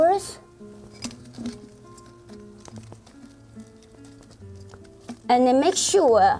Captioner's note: rustling